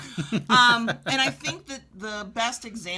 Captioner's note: chuckling